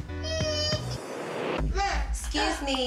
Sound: crying

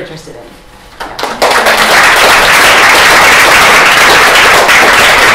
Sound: applause

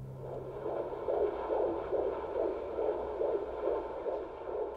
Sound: heartbeat pounding

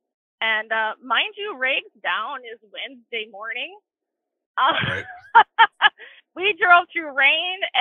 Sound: chuckles

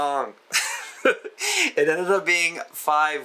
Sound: laughs

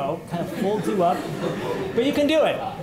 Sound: laughter

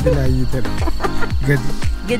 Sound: laugh

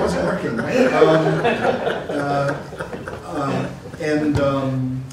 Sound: laughter

